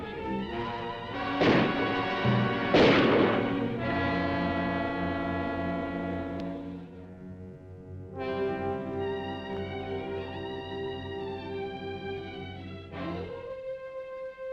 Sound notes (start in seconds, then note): 1.2 gun firing; 4.1 dramatic music